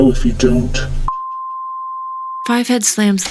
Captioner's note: high pitched tone